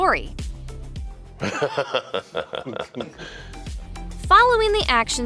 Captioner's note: weird evil laugh